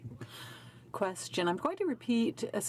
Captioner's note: speaking French